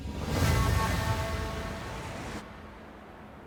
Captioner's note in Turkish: Dalga sesleri